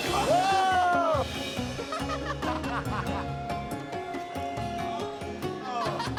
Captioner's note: laughs